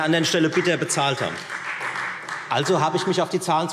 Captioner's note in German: Beifall Freie Demokraten